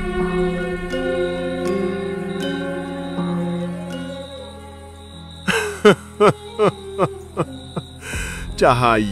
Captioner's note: laughing